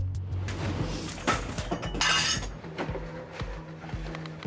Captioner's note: tense music; objects clattering